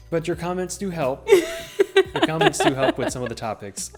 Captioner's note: laughing